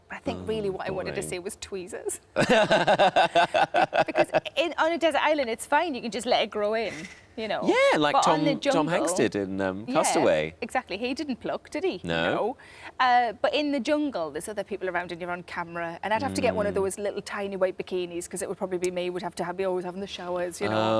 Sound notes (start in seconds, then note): 2.4 Tom laughs